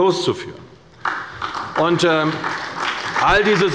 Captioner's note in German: Beifall bei der CDU